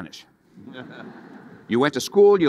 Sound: audience laughing

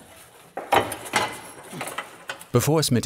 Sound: metal noises

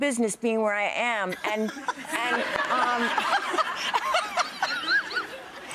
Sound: audience laughs

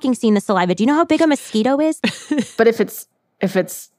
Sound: laughs

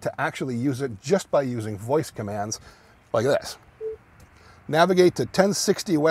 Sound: beep sound

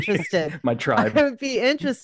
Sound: laughs

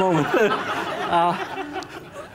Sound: laughter

